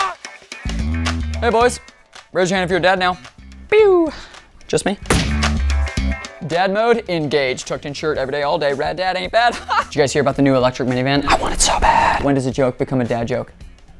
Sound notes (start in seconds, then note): 9.5 chuckles; 11.3 whispering